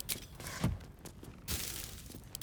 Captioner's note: none